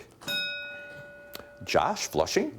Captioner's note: bell dinging